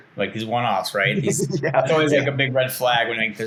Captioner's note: laughing